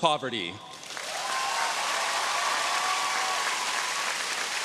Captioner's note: audience cheering